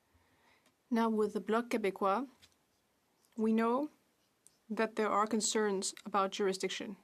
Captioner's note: speaking French